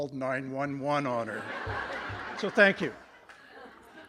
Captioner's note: laughter